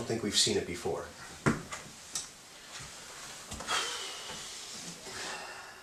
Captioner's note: sigh